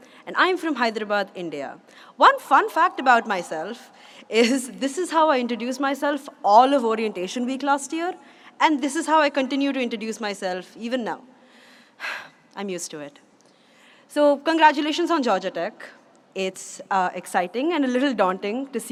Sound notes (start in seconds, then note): none